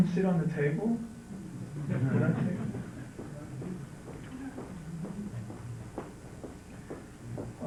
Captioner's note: laughter